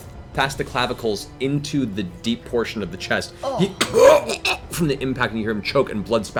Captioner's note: choking noise